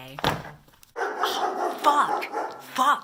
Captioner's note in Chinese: 狗吠